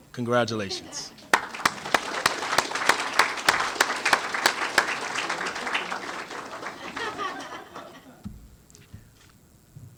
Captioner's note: applause